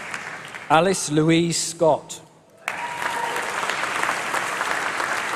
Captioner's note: applause